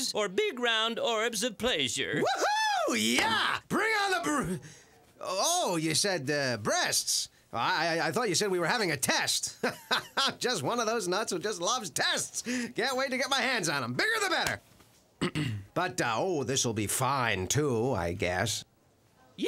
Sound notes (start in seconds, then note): 9.6 <i>hearty laugh</i>; 15.2 <i>clears throat</i>